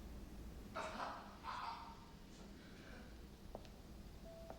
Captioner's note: Sam crying out